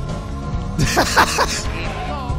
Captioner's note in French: rire